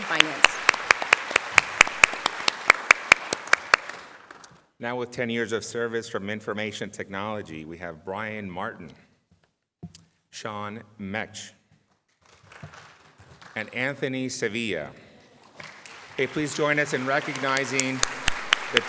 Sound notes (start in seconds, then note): 7.1 applause